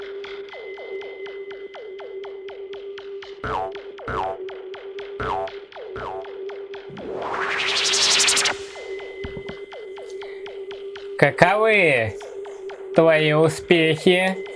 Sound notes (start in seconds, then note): 6.9 teleportation rustling